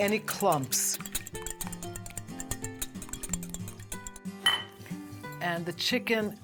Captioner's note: whisking the mixture